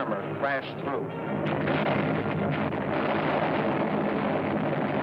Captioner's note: explosions